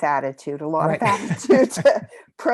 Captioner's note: laugh